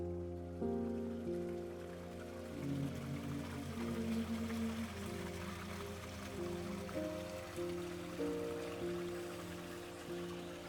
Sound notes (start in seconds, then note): 2.6 water rushing